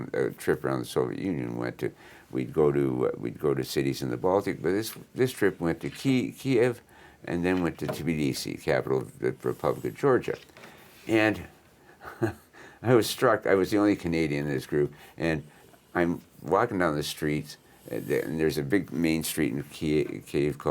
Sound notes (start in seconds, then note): 12.0 chuckles